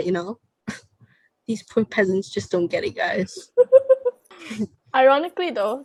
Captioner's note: scoff